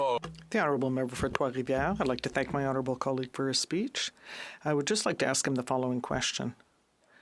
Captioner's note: speaking French